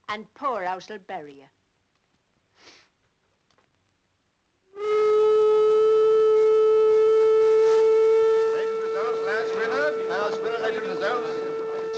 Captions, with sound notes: and poorhouse will bury you. (horn blares) (people chattering)